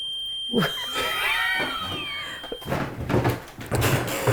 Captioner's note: both laughing